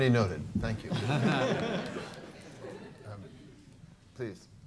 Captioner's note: laughter